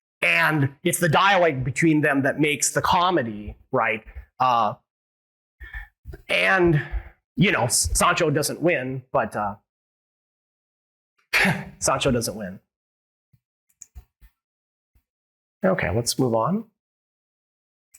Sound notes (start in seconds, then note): 10.4 laughs